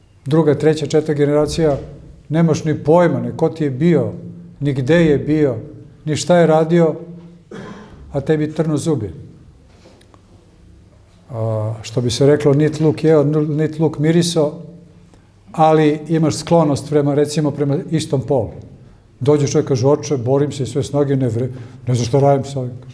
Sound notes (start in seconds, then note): 7.4 coughs